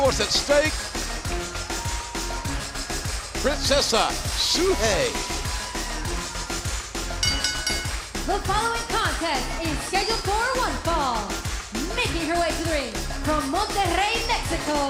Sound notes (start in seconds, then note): 7.2 bell ringing